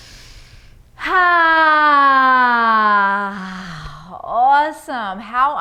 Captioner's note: loud sighing